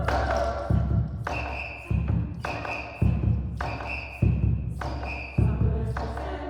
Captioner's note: whistles